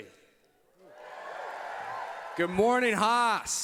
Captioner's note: applause